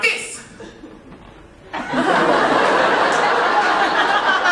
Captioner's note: audience laughing